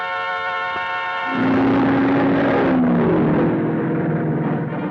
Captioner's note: cars revving